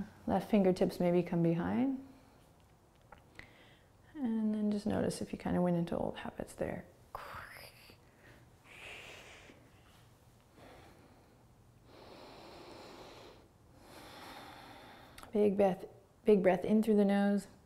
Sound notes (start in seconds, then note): 11.9 deep breathing